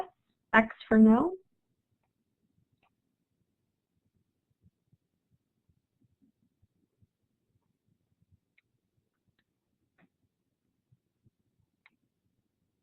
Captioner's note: silence